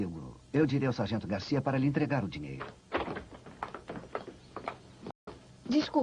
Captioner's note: footsteps